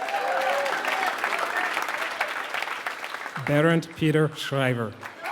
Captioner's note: applause